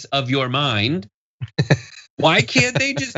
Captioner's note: laugh